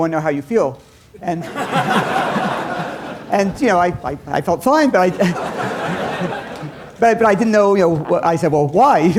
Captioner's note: laughter